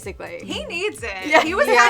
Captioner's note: chuckles